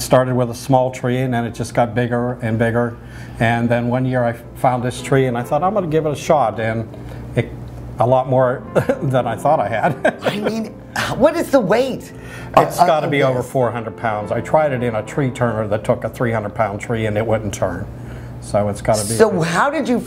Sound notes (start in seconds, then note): 9.8 laughing